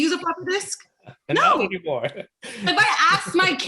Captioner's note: laughs